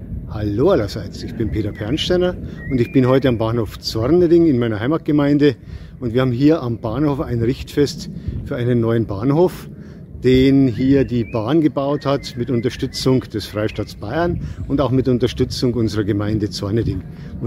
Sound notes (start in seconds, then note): none